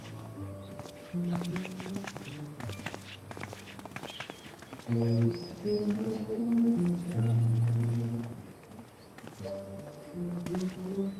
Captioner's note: footsteps